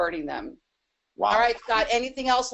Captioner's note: chuckles